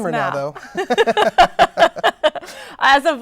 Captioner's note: both chuckling